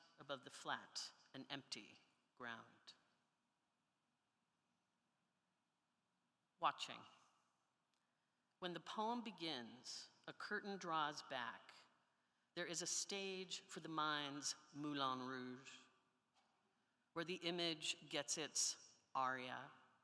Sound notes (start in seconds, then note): none